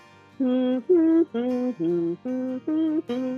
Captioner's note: hums